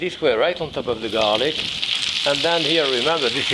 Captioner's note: spinach sizzling